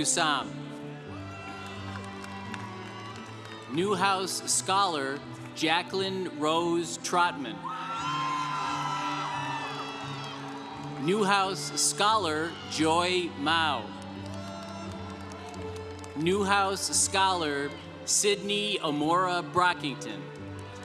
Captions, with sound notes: (congregation cheering) Newhouse Scholar Jacquelyn Rose Trotman. (congregation cheering) Newhouse Scholar Joy Mao. (congregation cheering) Newhouse Scholar Sydney Amora Brockington.